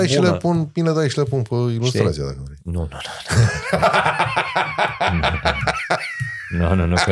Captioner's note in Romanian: Râsete